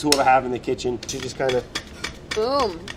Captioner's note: mandoline thumping on plate